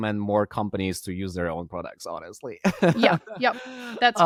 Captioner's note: laughing